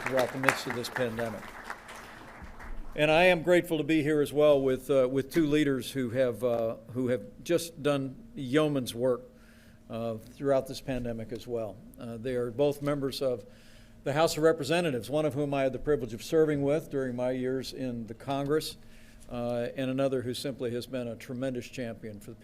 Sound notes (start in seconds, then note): 1.8 applause